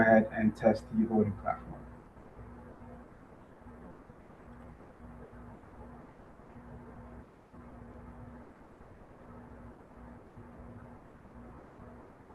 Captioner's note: pause